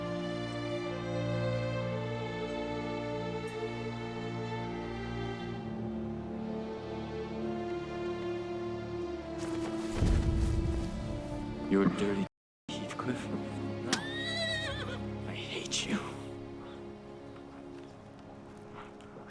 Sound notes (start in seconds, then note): 13.8 horse whinnying; 16.6 soft music